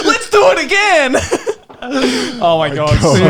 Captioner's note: laughing